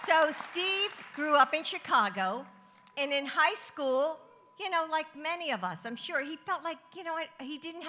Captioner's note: applause